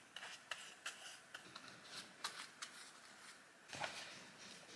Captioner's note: brush strokes